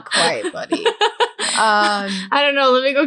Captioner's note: laughing